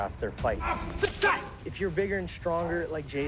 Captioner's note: both grunting